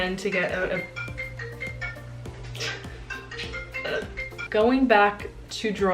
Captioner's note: cell phone ringing